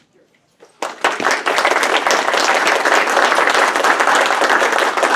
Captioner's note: audience applauds